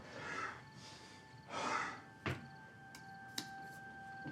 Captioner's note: Isaac sighing; soft somber music